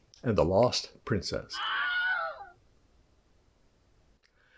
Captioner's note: scream